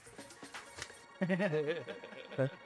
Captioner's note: laughing